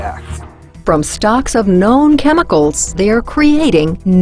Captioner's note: voiceover